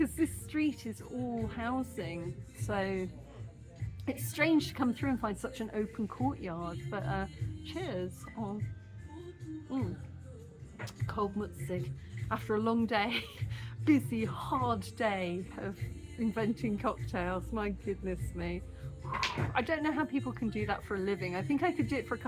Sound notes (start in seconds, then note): 12.2 laughing